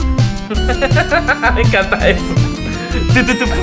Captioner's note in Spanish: Risas